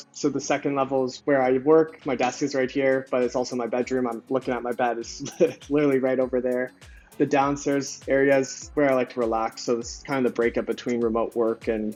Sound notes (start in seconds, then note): 5.0 upbeat music; 5.2 chuckles